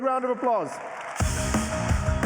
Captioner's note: applause